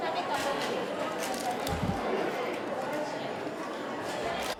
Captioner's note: crowd chattering